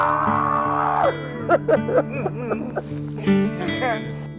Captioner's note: laughing